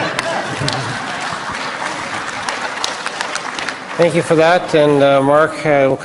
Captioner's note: applause; laughter